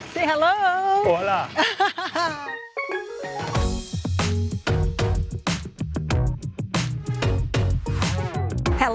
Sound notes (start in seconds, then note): 1.4 in Portuguese; 1.5 laughs